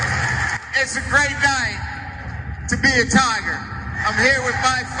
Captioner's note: applause